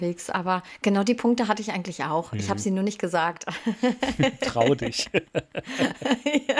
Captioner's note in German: gelächter